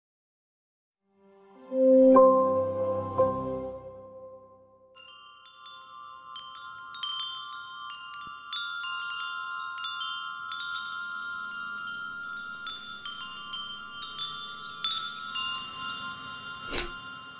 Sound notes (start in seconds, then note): 1.5 upbeat music; 5.4 chiming